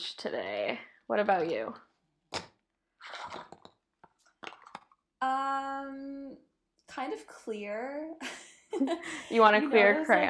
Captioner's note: giggles